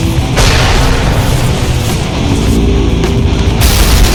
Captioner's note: explosion booms; ground crashes